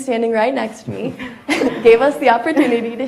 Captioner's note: audience laughs